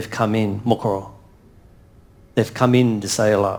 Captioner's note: speaks in foreign language